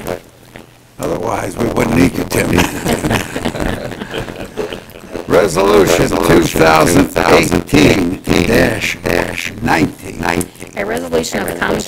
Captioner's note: laughter